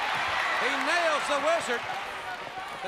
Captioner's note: crowd cheering